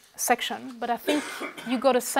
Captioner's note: cough